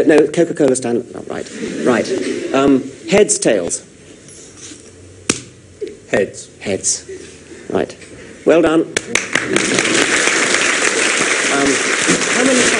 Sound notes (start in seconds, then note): 3.1 coin spinning; 9.1 audience applause